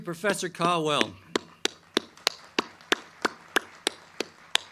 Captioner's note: crowd clapping